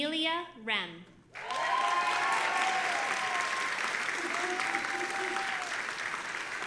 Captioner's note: audience applauding and cheering